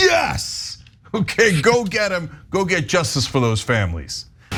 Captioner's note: laugh